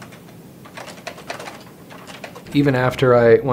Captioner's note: keyboard tapping